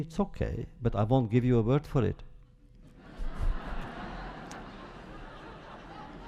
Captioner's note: laughter